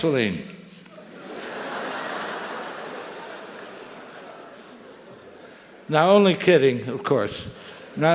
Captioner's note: laugh; laugh